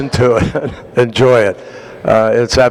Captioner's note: laughter